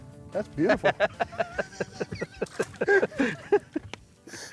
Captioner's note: both laughing